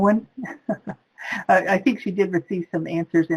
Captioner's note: laughs